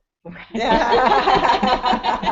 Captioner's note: laughter